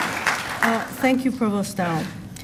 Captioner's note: applause